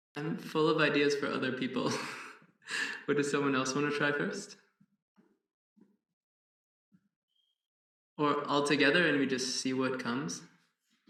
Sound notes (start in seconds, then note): 1.9 laughs